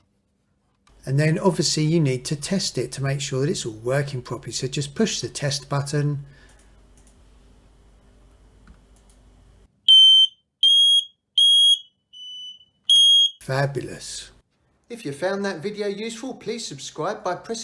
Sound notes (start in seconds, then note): 6.9 alarm Noise